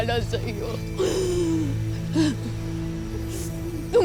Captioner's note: sobbing